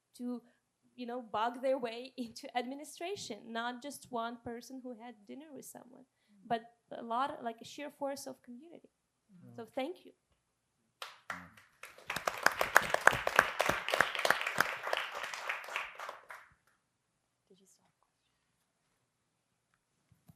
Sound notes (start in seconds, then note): 11.1 audience applauding